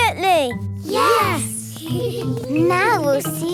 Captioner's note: giggling softly